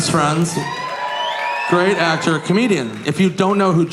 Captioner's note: audience cheering